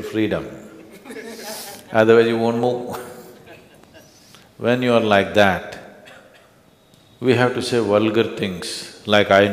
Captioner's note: few laugh